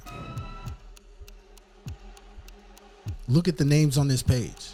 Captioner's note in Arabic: دقات الساعة